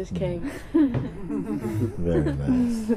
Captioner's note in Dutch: zacht gelach